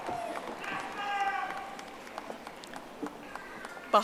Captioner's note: audience applauding